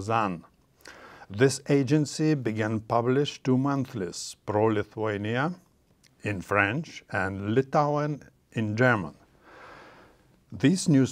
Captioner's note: in German